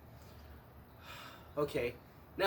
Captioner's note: exhales